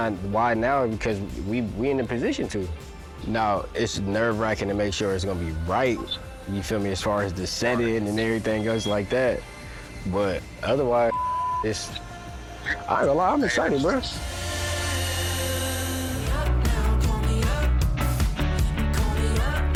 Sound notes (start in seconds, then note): 11.1 beep; 16.3 upbeat music